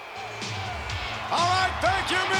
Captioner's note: crowd cheering; lively music